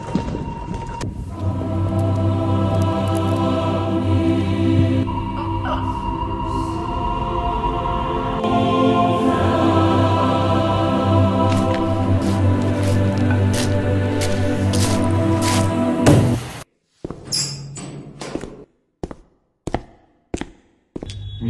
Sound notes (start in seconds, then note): 17.2 door opened; 18.5 footstep